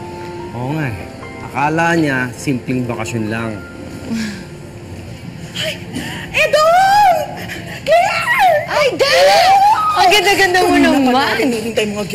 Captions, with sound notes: I know. He simply thinks we're on vacation. [Claire sighs] Oh, Edong! Claire! -Aida! -[Aida squeals] -You're so pretty. -We've been waiting for you,